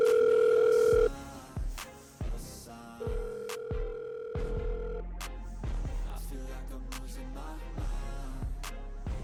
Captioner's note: phone ringing